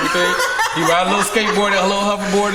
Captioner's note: group laughs